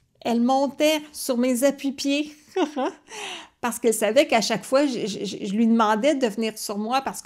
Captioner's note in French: rire